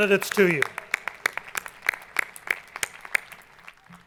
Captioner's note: clapping